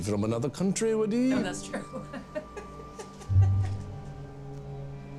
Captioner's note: laughs